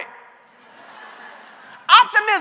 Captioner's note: laughter